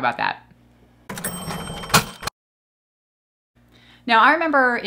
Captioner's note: cash register chiming